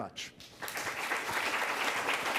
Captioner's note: applause